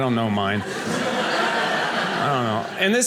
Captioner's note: audience laughing